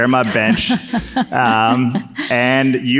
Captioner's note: laughs